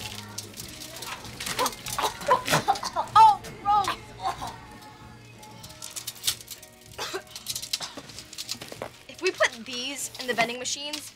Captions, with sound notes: [gagging] Oh, gross. [coughing] If we put these in the vending machines,